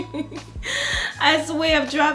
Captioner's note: laughs